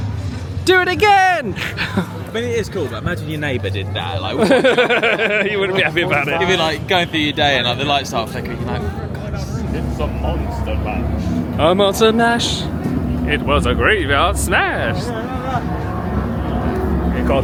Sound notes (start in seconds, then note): 4.4 laughs